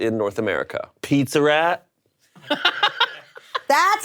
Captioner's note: laughing